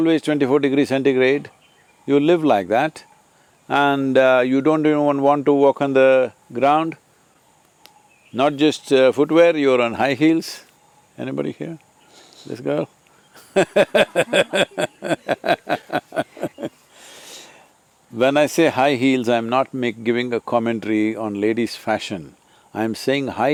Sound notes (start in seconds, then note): 13.3 laughs